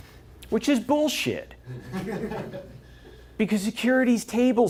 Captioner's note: laughter